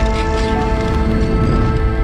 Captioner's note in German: klappernde Tastatur